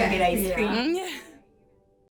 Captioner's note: laugh